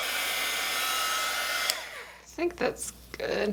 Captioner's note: heat gun noise